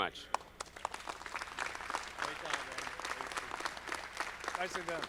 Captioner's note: audience clapping